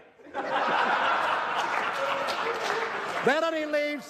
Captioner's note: laughter, applause